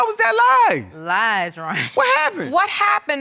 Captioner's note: chuckles